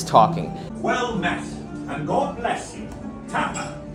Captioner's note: recorded voice